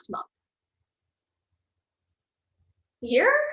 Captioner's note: silence